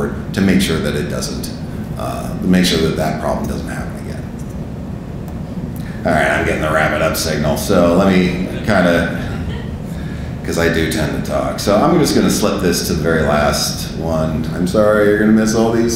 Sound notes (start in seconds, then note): 7.8 audience laughing